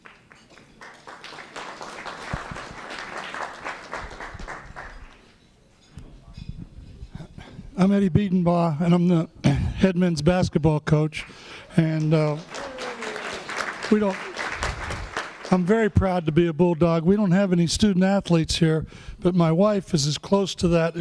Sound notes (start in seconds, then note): 0.0 applause; 11.7 applause